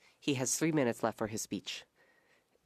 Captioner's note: speaking French